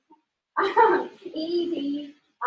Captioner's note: laughing